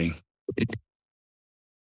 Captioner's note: microphone noise